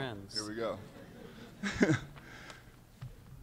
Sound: laughter

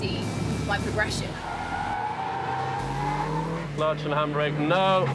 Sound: tires screeching

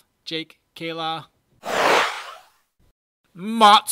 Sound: whoosh

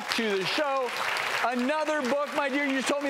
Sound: crowd cheering

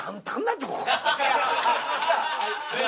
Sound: laughter

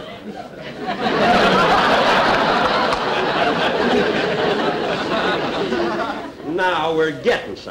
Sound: audience Laughing

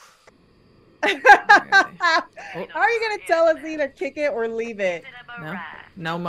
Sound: laugh

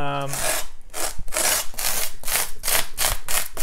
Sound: rake scraping

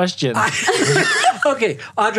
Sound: laughter

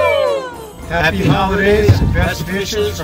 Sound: cheering

